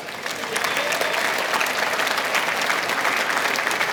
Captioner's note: clapping